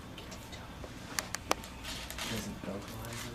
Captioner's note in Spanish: Conversaciones de fondo